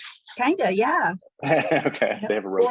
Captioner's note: laughs